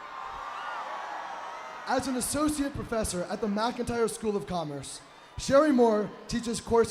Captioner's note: applause